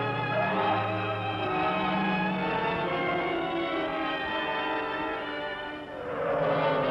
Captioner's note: gentle instrumental music; tense music; tires screeching